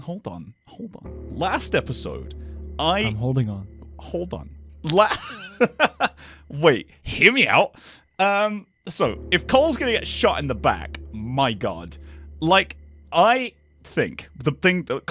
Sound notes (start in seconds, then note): 5.0 laughs